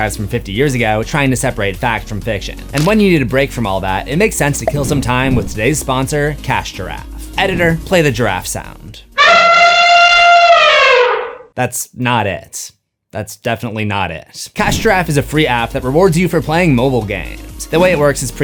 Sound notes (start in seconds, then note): 9.1 elephant trumpet